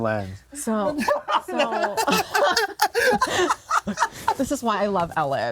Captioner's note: cracks up